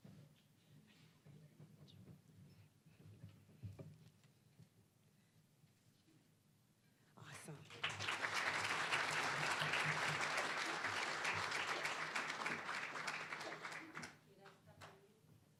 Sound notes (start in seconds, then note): 7.4 applause